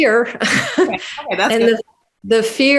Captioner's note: laughing